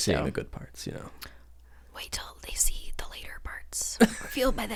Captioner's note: whisper